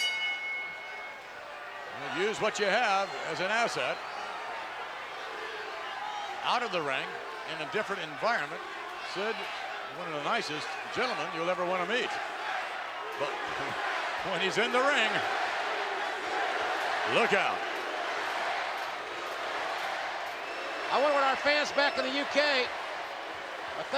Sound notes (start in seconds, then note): 0.0 bell rings; 15.3 crowd chants "USA"